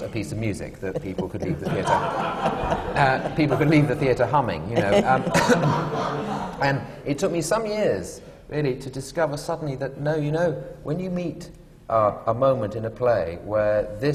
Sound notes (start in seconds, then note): 0.9 laughter